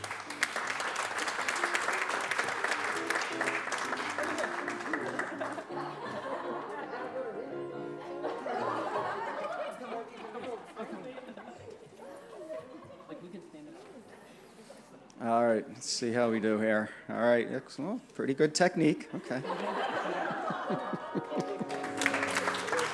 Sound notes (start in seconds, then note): 0.0 applause; 6.5 scattered laughter; 19.1 laughter; 22.7 applause